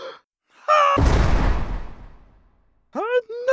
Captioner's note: inhale; jail bars slam